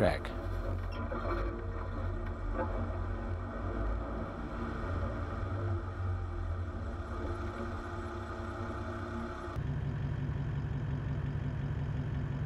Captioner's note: vehicle sounds